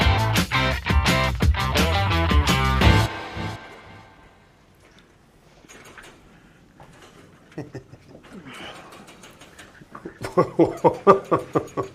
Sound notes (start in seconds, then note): 0.0 upbeat music; 7.6 chuckles